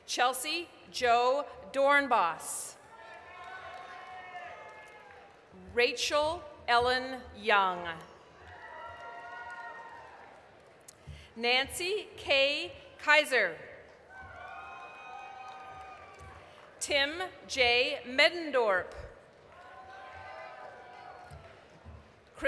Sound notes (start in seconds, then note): 2.8 applause, cheering; 8.2 applause, cheering; 14.0 applause, cheering; 19.2 applause, cheering